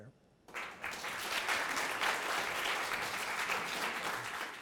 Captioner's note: audience applauding